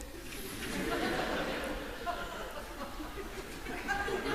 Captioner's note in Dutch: gelach